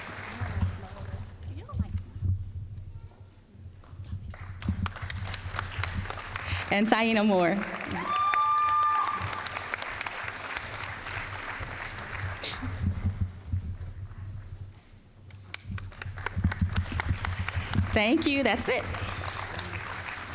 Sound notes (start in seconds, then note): 4.9 applause; 8.6 applause; 15.5 applause